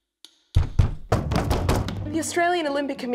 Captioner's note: even more knocking